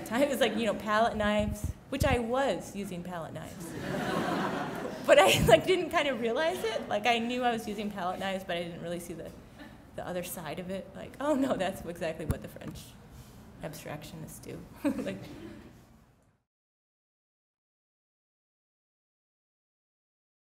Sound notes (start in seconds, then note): 3.9 laughing